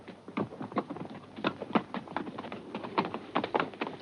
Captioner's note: pezuñas golpean